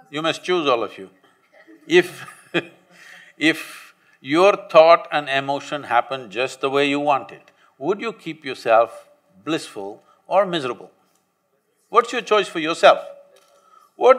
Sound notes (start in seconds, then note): 2.2 laughs